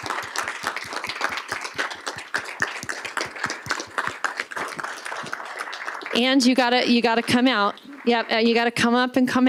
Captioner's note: applause